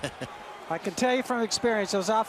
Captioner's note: laughs